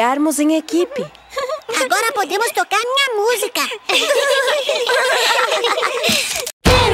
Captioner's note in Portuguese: Risos